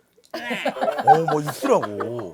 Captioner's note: haha